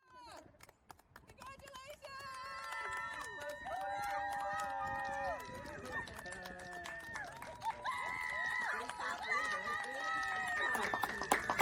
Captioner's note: clapping and cheering